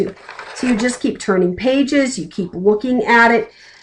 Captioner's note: flipping page